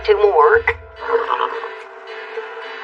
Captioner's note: horse whinnies